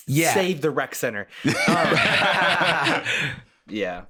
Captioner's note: all laughing